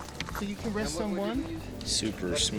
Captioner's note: background chatter